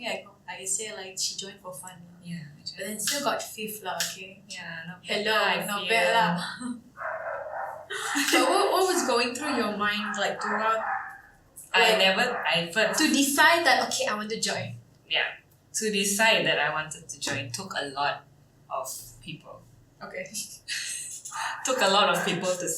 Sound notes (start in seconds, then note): 7.0 woof woof woof